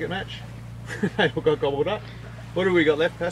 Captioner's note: laughs